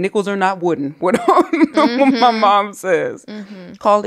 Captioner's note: laughs